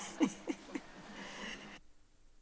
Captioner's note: chuckles